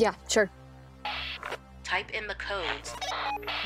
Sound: radio bleep

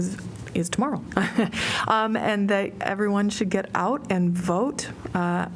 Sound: laughter

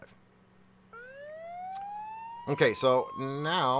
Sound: siren blaring

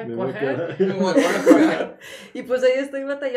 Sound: laughter

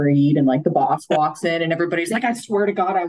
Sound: laughing

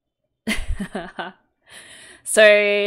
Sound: laughs

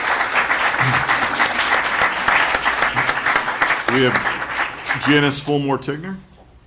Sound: applause

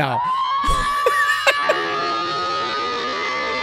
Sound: laughs

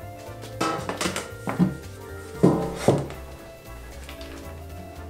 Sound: upbeat background music; tin rattling

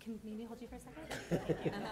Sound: laughter

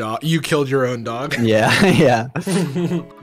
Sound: laughs

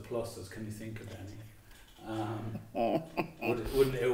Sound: laughing

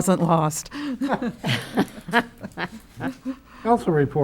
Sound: laughter

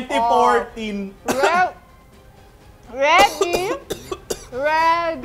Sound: coughs

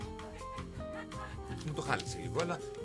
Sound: laughs

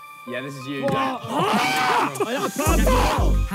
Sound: players shout

